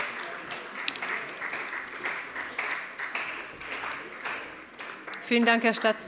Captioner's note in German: Beifall bei der CDU und dem BÜNDNIS 90/DIE GRÜNEN